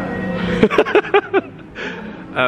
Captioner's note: laughs